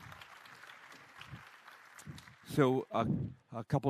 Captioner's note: applause